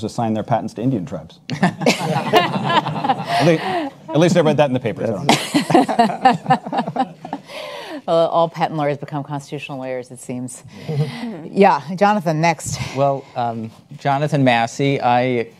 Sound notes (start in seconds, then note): 1.6 audience laughs; 5.3 panelists laugh